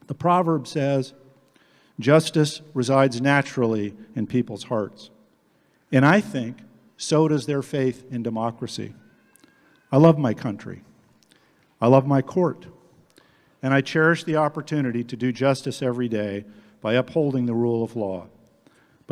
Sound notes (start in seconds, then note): none